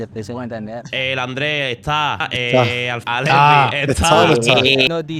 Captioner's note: typical Andalucian accent